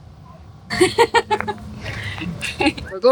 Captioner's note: laughing